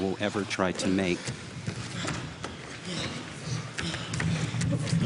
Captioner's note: panting and limbs moving